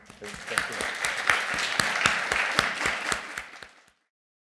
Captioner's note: applause